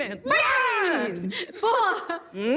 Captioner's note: all yell